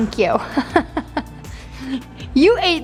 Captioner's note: laughs